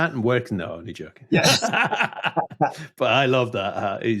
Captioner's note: laughs